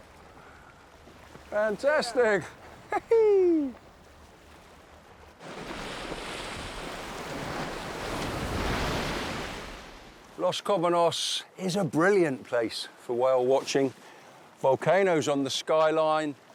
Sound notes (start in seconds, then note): 2.8 cheers; 5.7 water splashes